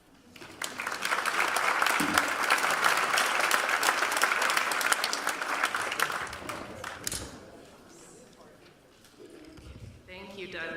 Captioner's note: applause